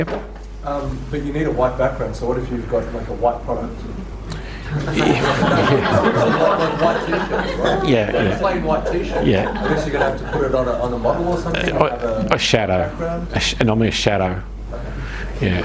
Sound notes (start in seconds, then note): 6.6 audience laughs